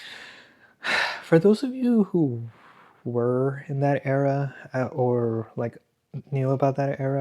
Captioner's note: sighs